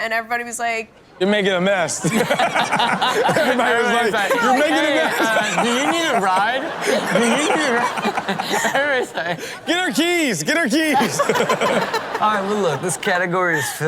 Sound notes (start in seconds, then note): 2.4 co-hosts laughing; 7.6 audience laughs; 11.8 laughs